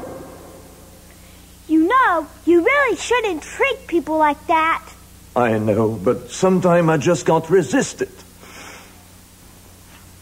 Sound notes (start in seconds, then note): 8.4 sniffles to hold back tears